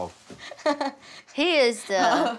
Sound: chuckles

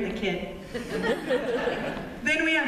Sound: laughter

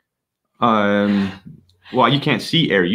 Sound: chuckling

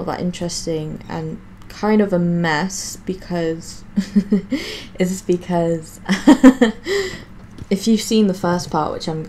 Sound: laughs; still laughing

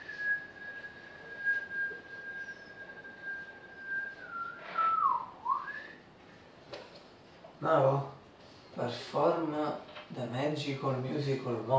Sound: whistle; whistle

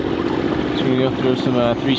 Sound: engine vibrating

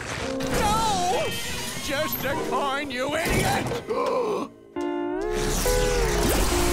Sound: gasping

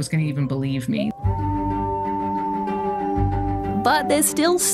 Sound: wolf howls

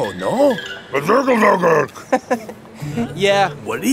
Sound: speaking in foreign language; laughing

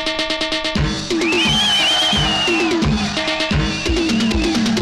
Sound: whistling

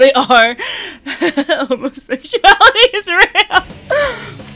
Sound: laughter

